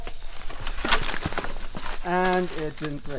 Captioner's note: branch cracks